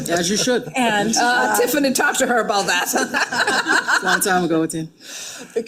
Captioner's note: laughing